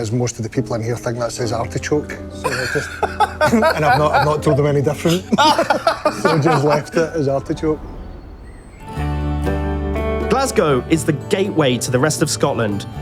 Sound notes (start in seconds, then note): 2.1 laughs